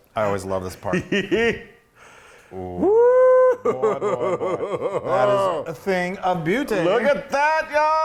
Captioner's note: laugh